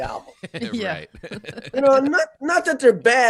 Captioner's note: laughing